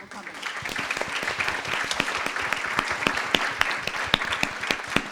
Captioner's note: audience applauds